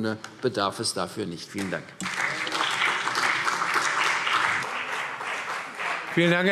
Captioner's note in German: Beifall CDU und BÜNDNIS 90/DIE GRÜNEN